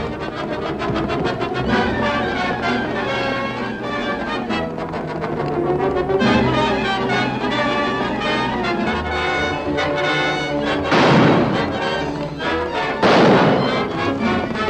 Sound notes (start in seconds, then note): 0.1 action music; 5.4 horse galloping; 10.8 firing